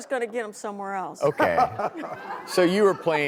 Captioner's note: laughter